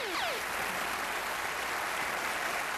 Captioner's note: applause